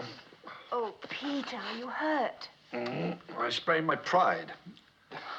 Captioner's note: groaning